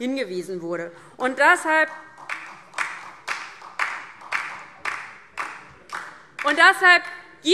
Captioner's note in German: Beifall